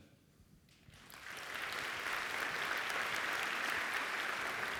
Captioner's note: audience applauds